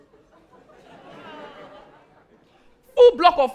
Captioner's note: audience laughing